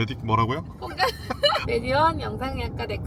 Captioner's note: laughs